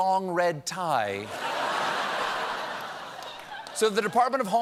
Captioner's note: laughter